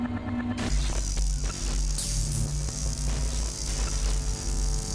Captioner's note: stun gun zapping